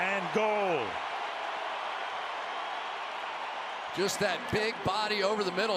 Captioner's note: cheering